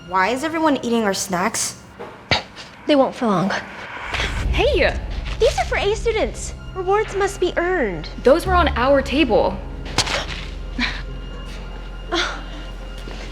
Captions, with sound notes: Why is everyone eating our snacks? They won't for long. hey! these are for “A” students. Rewards must be earned. Those were on our table. (Gasps) (laughs)